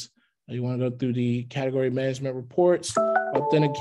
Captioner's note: computer tone